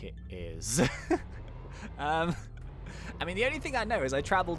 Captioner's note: laughing loudly